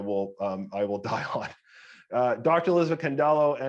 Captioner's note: chuckling